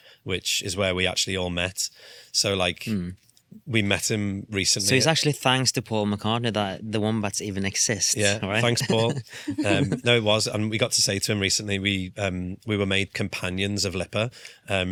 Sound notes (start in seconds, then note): 8.2 laughs